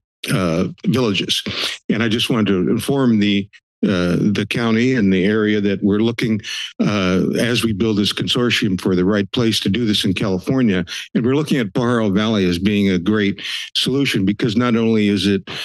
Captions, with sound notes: villages. [inhales loudly] And I just wanted to inform the county and the area that we're looking [inhales] as we build this consortium for the right place to do this in California. And we're looking at Barro Valley as being a great [inhales] solution because not only is it